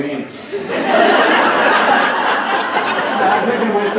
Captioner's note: laughter